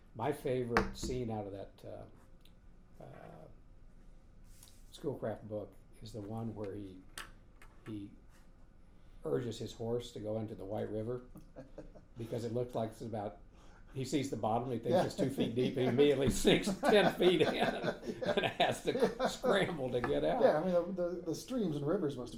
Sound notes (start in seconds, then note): 11.4 laughing; 14.8 laughing